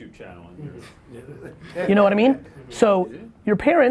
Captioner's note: laughs